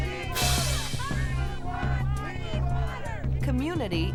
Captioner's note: crowd chanting